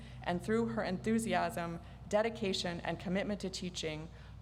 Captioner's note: none